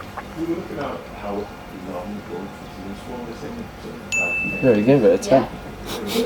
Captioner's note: people chattering in background